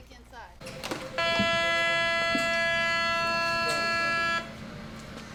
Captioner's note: alarm blaring